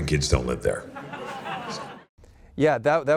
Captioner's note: audience laughing